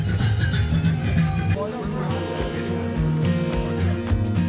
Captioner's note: people chattering